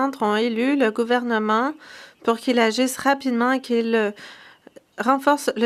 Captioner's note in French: voix de l'interprète